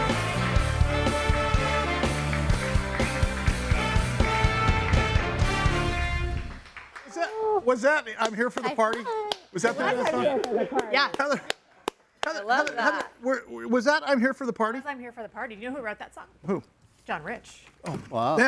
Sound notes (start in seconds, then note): 12.5 clapping